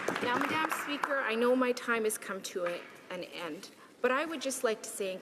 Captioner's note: some applause